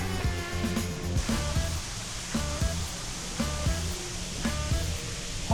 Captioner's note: water splashing